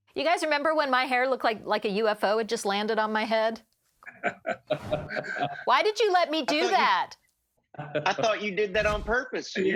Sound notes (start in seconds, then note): 4.0 laughing